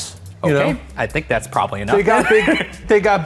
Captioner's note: laughs